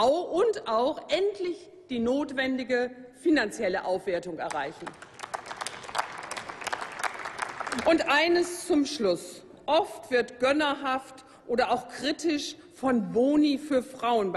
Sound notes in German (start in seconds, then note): 4.4 Applaus